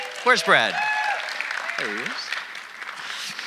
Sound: audience applauding

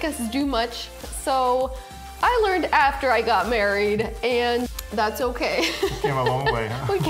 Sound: laughing

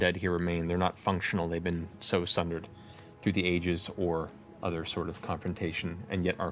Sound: none

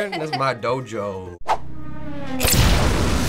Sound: giggles; revving; boom!

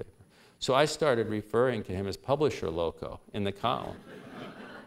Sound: laughter

